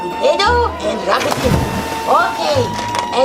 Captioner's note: splashing